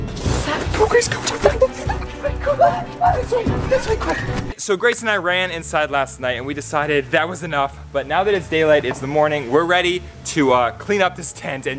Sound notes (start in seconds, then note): 1.9 whispered screaming